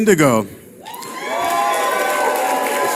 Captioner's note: audience cheering